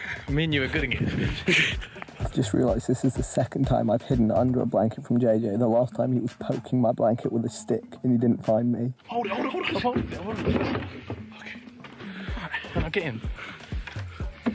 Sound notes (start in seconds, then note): 11.2 bin clatters